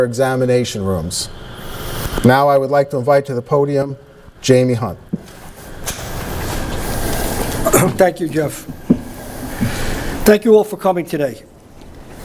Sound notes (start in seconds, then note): 7.6 clears throat